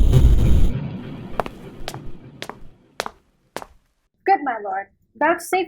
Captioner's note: footsteps approaching